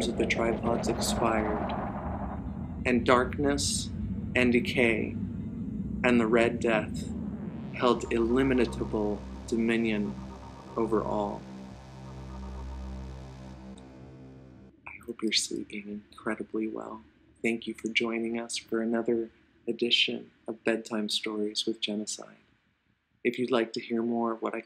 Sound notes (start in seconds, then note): 11.2 whispering